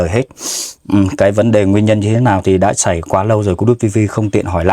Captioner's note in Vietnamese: khịt mũi